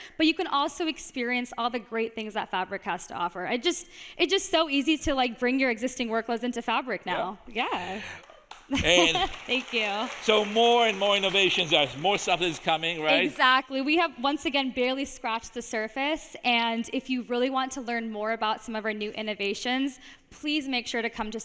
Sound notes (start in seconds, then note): 10.4 audience applauding